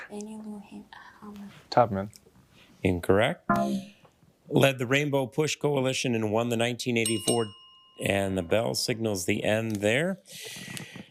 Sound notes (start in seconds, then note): 3.5 failure chime; 7.0 bell dings